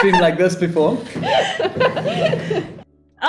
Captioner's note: laughing